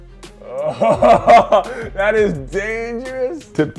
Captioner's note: laughing